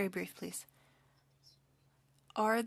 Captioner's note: speaking french